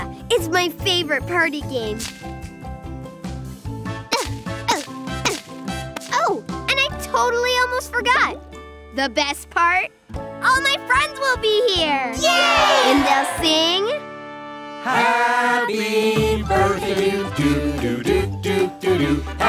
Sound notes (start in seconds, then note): 4.2 Finny grunts; 12.2 friends cheer